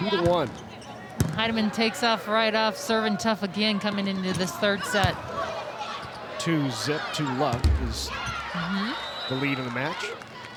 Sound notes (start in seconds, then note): 5.0 ball thumping